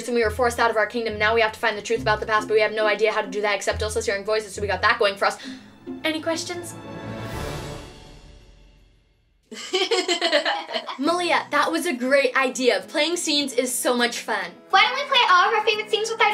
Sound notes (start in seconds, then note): 9.5 laughter